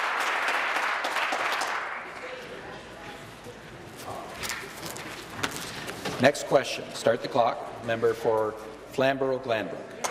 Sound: applause

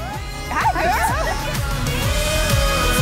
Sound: laughs

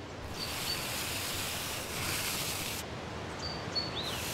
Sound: birds chirp, wind blows; snow shifts

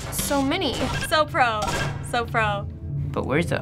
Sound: button beeps

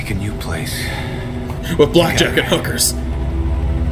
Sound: mocking Kaz

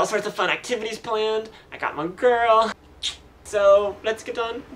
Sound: kissing sound

